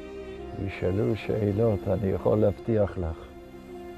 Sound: speaking in Hebrew

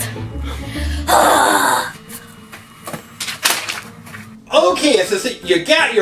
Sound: Evil Assistant groans

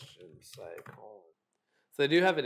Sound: keyboard clicking

